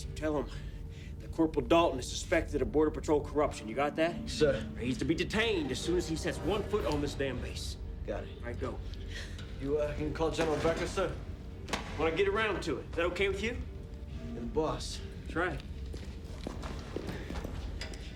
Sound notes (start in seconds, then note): 9.7 Kelly gasps